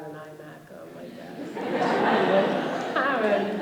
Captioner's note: laughter and applause